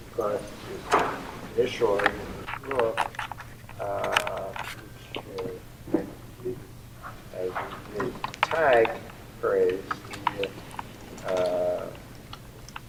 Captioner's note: applause